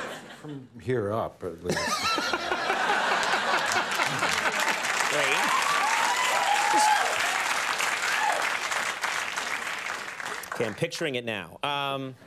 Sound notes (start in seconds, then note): 1.7 audience laughing; 2.7 audience clapping